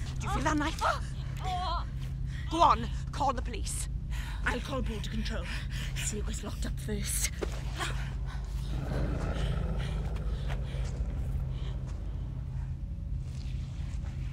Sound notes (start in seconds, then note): 8.6 dog snarls